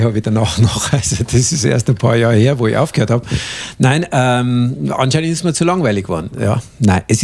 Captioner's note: laughing; laughing